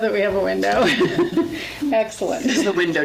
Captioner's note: laughs